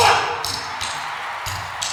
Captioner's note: crowd explodes